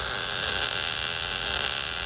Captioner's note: saw buzzing